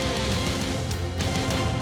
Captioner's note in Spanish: solloza